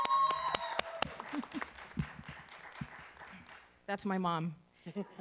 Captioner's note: cheering; laughing